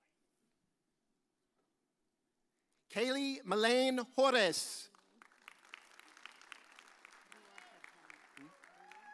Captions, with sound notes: Kayley Malane Horris. (audience cheers)